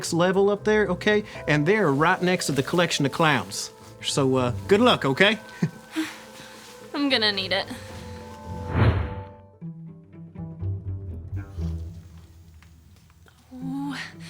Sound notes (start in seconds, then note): 7.0 whimpers; 8.4 whooshing; 10.5 suspenseful music